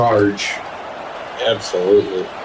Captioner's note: crowd Noises